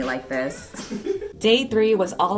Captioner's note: laughter